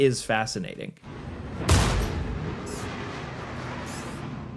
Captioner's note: guns firing